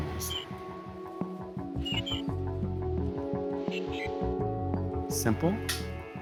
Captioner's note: stilted chirping